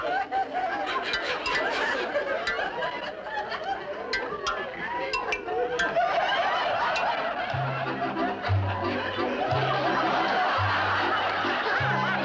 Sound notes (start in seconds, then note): 5.5 laughter